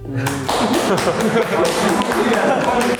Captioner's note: applause for himself